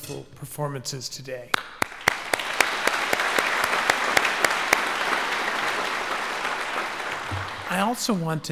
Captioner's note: applause